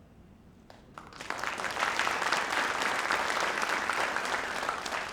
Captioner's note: audience applauding